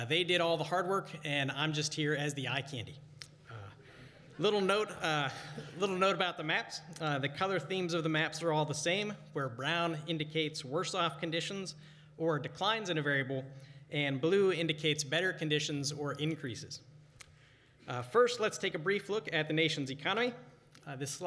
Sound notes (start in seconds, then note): 4.8 laughter